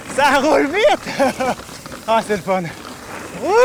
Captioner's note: laughs